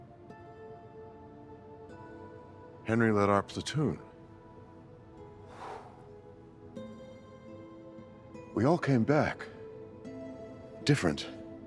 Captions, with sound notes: (gentle music) - Henry led our platoon. (sighs) We all came back, different.